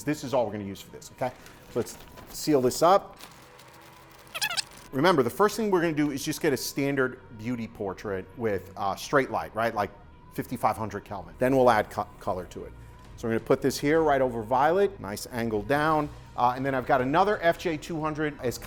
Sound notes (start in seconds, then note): 4.2 fast forward squeaky sound